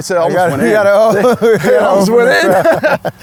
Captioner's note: laughs